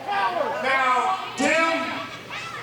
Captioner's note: audience members shouting